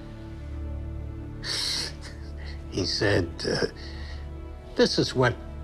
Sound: scoffs

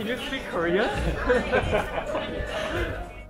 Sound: laughing

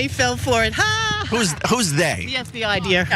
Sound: laugh

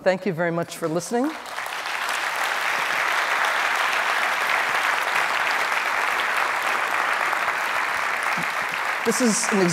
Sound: applause

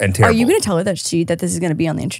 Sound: laughs

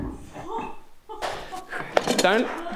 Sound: Cass chuckles

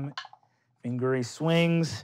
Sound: rolling dice

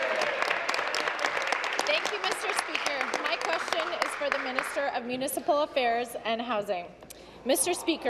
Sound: applause

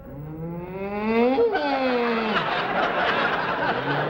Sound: grunts like a moose

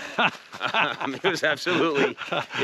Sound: Kevin laughing

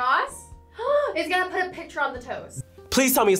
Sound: gasps

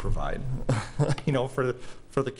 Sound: laughing

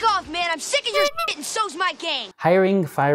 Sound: horn honks

